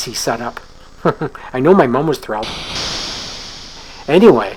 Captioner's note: chuckles